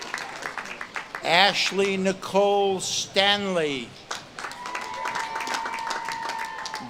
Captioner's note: audience claps and cheers